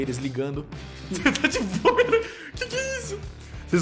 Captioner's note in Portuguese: risadas